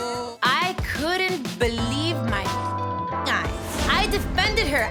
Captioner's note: beep